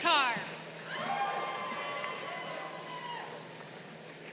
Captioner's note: crowd cheering